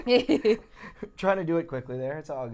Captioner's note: laughing